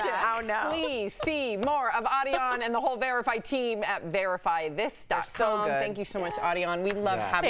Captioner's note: laughter